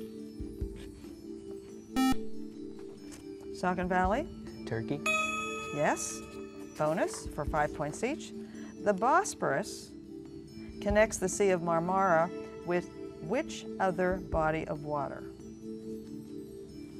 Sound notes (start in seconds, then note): 2.0 buzzer